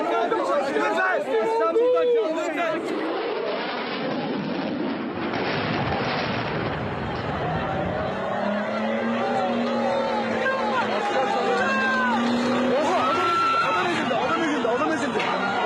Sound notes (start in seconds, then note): 0.0 yelling and gunfire; 5.4 explosion booms; 6.6 sirens, yelling, chaos